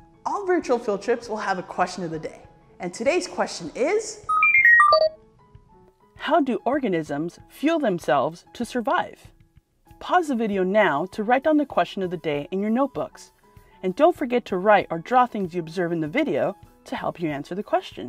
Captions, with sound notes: All Virtual Field Trips will have a Question of the Day and today's question is... [Computer beeping] How do organisms fuel themselves to survive? Pause the video now to write down the Question of the Day in your notebooks and don't forget to write or draw things you observe in the video to help you answer the question.